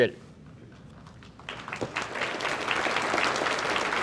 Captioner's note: audience applauds